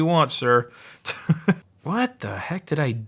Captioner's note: laughing